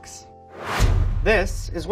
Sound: whooshing

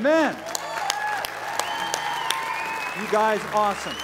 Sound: cheers and applause

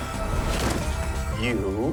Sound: thuds

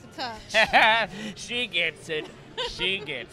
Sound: Joker laughing

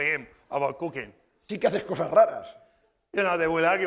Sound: speaking spanish

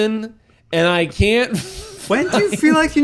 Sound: laughs

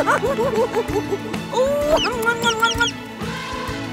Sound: giggling; kissing sounds

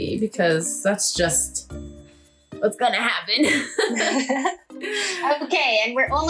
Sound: laughs

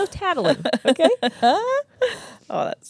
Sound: chuckles

